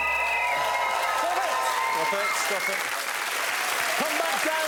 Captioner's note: blows whislte